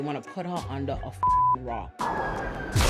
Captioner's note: beep